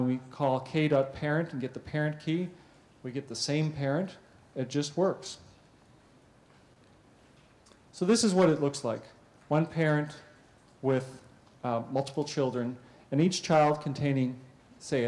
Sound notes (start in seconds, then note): 5.3 pause